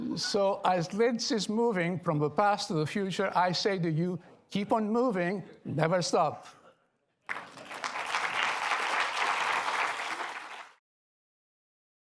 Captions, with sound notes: So as LIDS is moving from the past to the future, I say to you, keep on moving. Never stop. [APPLAUSE]